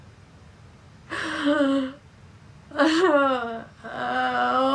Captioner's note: Gina crying